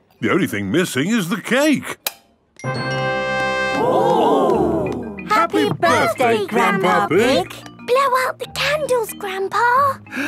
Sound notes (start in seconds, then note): 2.4 click